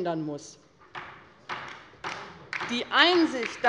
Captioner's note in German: Beifall bei der LINKEN